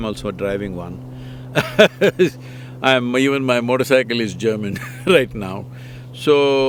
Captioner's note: laughs